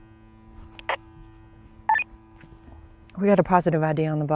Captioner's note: soft dramatic music; static beeping on radio